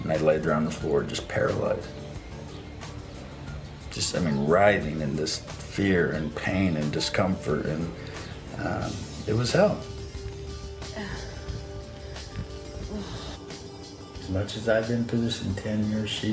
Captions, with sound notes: and I laid there on the floor just paralyzed, just I mean, riding in this fear and pain and discomfort and it was hell. (she grunts) As much as I've been through this in 10 years,